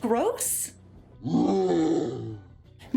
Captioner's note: Hulk roars